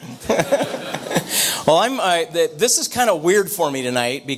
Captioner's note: audience laughter